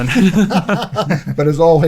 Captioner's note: laughing